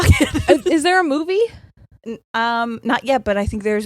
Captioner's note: laughing